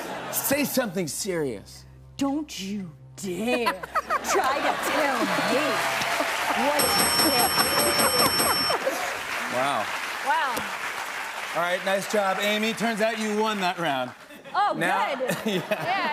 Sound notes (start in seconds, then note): 6.7 bell dings; 14.6 laughs